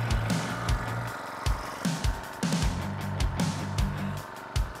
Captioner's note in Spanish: motor acelerando; música animada